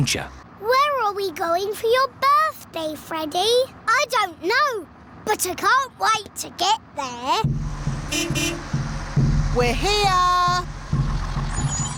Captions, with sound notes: Where are we going for your birthday, Freddy? I don't know. But I can't wait to get there. (HORN BEEPS) We're here!